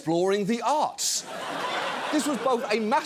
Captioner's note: laughter